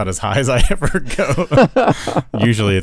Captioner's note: laughing